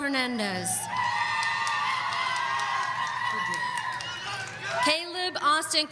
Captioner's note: audience cheering